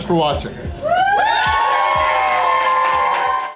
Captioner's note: crowd cheering and applause